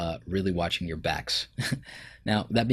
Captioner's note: chuckles